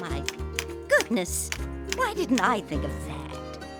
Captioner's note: bird clicking